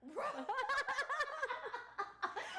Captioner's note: laughing